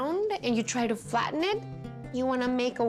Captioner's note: none